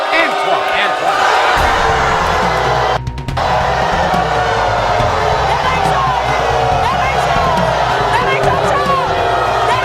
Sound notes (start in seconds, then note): 1.0 audience booing